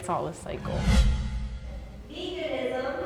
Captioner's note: air whooshing